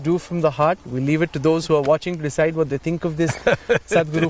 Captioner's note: Sadhguru laughs